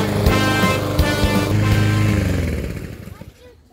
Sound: music fades out as lawnmower shuts off

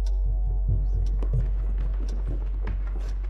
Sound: rustling sounds

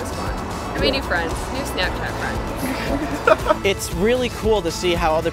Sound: laughter

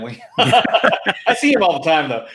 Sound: both laughing

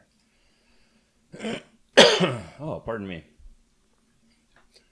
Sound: coughs

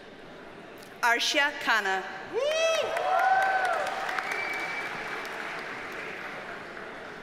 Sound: audience cheers and applauds

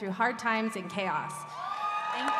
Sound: cheering

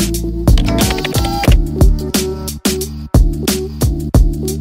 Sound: keyboard clacking

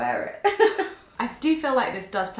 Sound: laughing

